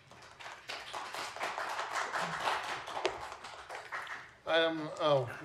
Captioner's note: applause